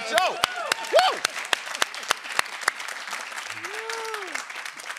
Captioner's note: applause